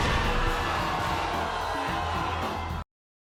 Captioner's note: crowd roars